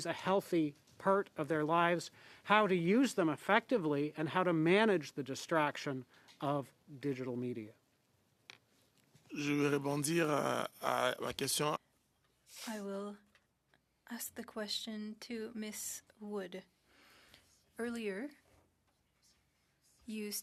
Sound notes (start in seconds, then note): 12.6 speaking French